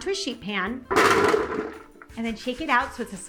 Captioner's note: cauliflower thumps